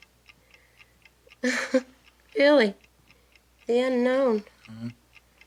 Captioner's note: chuckles